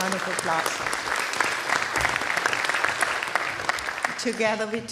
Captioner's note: applause